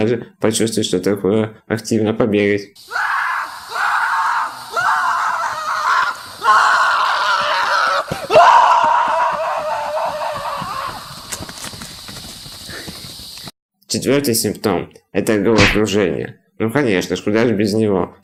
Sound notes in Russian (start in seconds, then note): 2.8 Слышны крики